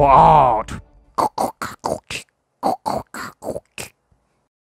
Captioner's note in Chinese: 變形音效